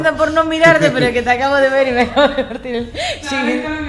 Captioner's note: laughs